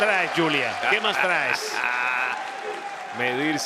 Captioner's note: laugh